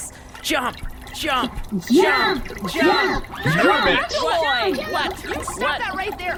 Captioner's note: chanting; joining the chant